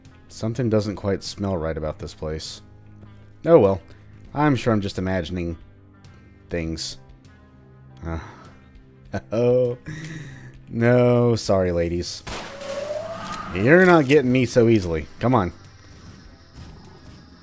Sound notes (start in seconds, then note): 8.9 chuckles; 12.2 Glock pews, Trash Hags howl